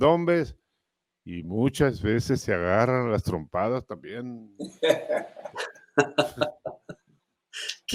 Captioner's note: Risas